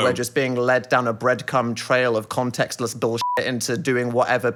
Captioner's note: beeping